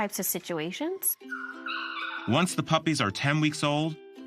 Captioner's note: puppies yipping